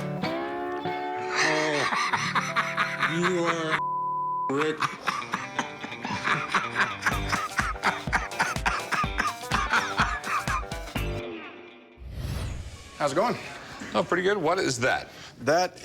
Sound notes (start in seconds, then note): 1.2 laughter